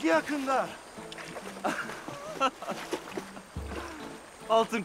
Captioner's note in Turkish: Gülme sesleri